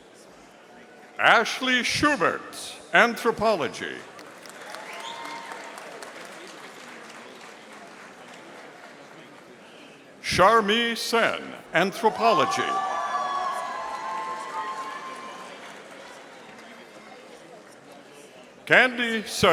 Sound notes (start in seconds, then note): 4.0 audience applauding; 12.0 audience cheering